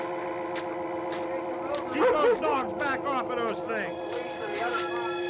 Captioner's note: footsteps